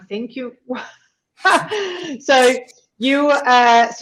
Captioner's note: chuckles